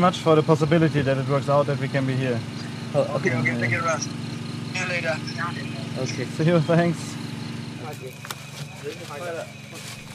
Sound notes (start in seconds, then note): 7.8 quiet voices